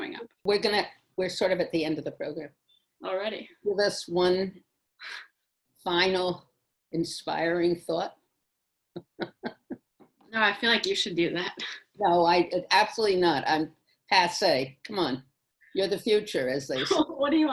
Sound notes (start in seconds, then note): 10.5 laughs